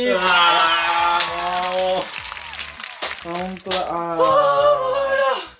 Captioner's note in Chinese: 各種惋惜聲